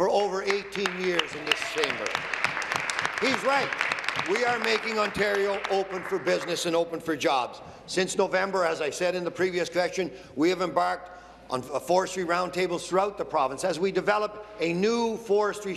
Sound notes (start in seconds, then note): 5.4 applause